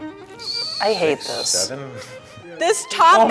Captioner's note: onions squelching